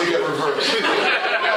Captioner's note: laughter